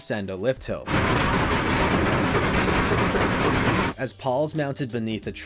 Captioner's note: rumbling click-clack